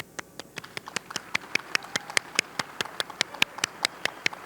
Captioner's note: audience clapping